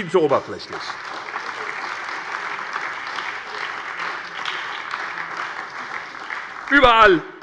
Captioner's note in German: Beifall bei der SPD